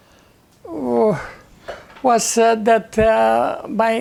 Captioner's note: sighing